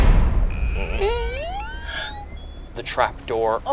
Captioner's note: door creaks